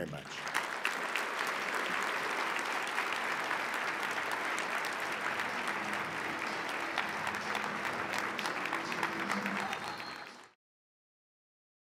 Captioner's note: applause